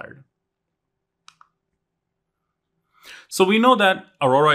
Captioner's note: remote clicking